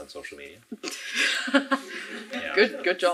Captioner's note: laughing